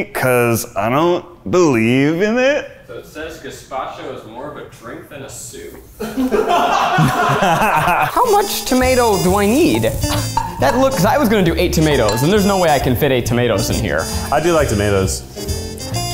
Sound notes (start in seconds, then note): 6.0 all laugh